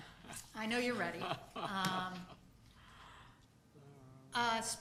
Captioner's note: man chuckling